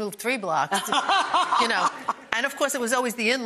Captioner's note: Rachael laughs